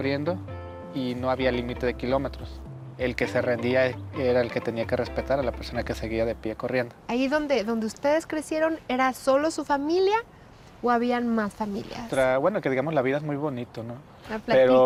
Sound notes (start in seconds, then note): 6.4 speaking Spanish